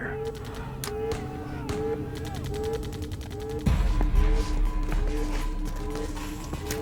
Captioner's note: gunshots blasting; alarm blaring